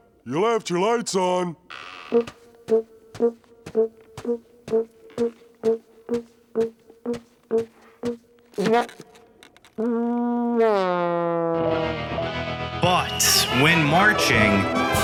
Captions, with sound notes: you left your lights on. [tooting] [tooting] But when marching,